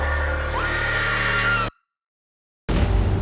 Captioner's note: screams